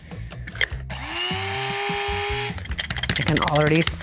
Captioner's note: grinder whirring